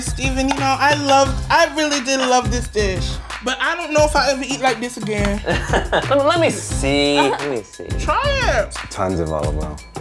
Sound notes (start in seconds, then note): 5.4 laughs